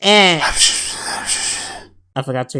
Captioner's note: whispers